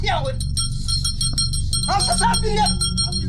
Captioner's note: intense bell jingling